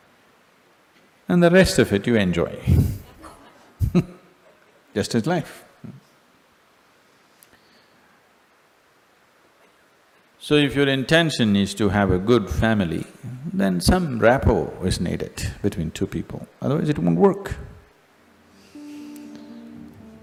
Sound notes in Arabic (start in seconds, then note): 2.7 ضحك